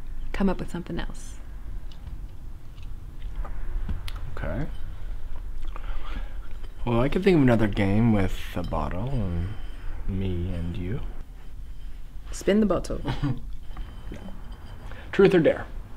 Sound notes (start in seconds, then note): 13.0 Terrence chuckles